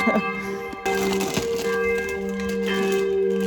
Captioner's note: chuckles; bag crinkles; bell still tolls